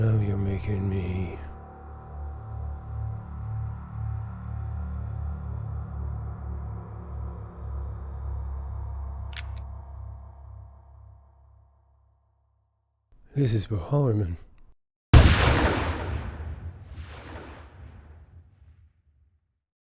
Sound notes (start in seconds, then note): 15.1 gun banging